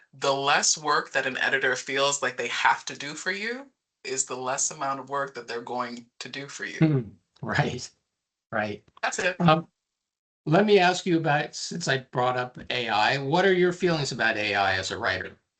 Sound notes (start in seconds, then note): 7.5 chuckling